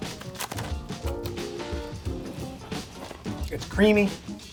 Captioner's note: crostini crunches